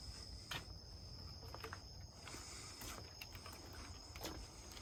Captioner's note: footsteps tapping